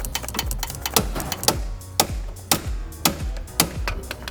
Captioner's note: hammer thudding